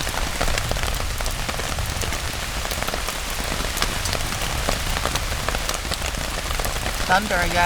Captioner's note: rain & faint thunder rumbling